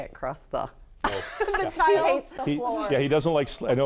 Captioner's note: laughs